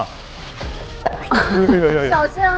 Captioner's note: sizzle